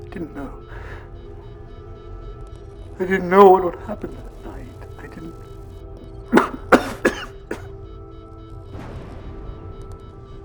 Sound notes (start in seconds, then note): 6.2 coughs